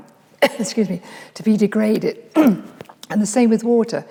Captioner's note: clears throat; coughs